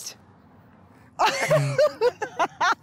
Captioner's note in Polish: śmiech